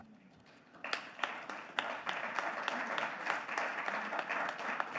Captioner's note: audience clapping